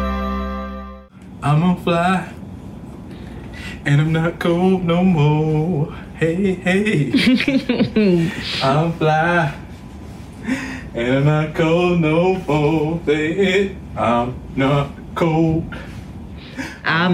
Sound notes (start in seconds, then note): 7.0 laughs